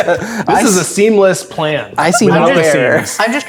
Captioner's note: players laughing; players laughing